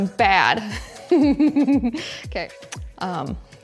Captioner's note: host laughing